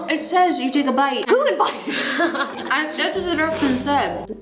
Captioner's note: laughs